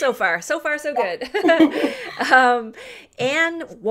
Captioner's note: laughter